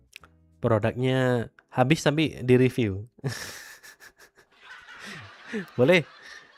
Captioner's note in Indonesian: tertawa